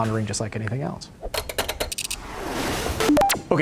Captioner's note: electronic clicks and beeps